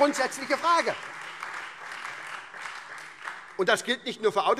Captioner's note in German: Beifall SPD und Freie Demokraten